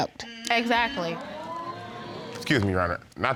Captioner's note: audience exclaiming